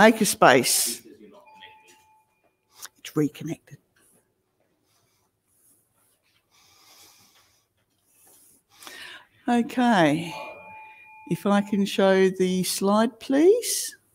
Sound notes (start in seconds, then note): 1.0 background chatter; 3.2 whispering